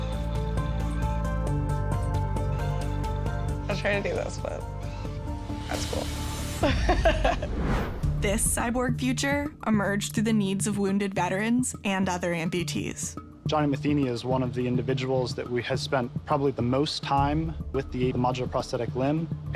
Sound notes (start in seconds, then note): 0.0 upbeat music; 6.6 laughing